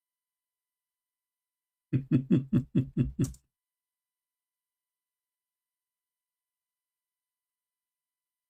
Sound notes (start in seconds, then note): 1.9 Ketawa